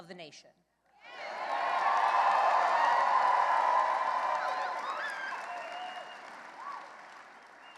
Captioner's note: cheering and applause